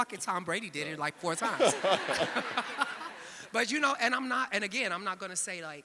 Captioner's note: audience laughing